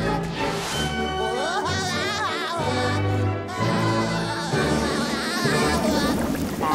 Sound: laughing

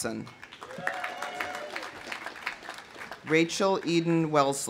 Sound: audience applauding; audience cheering

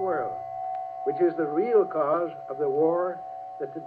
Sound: voiceover

